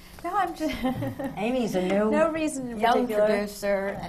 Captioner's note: laughs